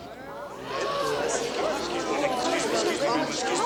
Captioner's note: townsfolk murmur